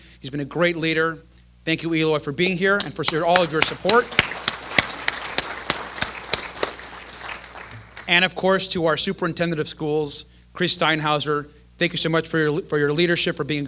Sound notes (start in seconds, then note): 5.2 applause